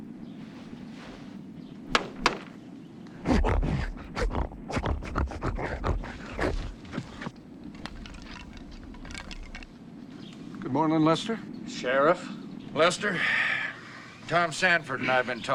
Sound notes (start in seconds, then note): 1.9 door knock; 3.4 man snorting